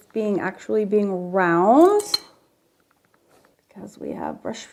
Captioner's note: brush clanking